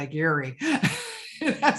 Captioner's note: laughing